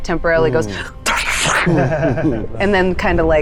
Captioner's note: chuckling